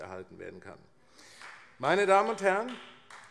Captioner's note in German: Beifall AfD